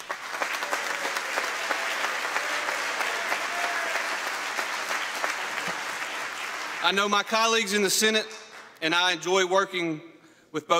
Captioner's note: applause